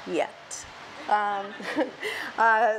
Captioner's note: laughs